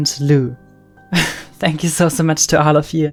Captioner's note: laughs